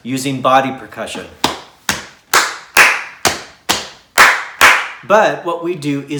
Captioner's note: tapping and clapping